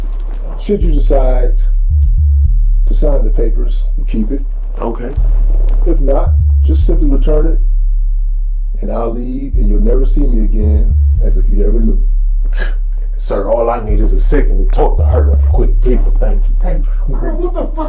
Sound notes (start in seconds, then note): 13.2 chuckles